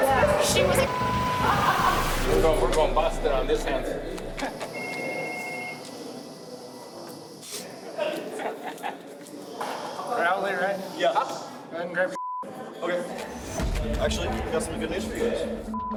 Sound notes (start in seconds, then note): 1.4 inmates laughing; 1.6 tense music; 4.7 phone ringing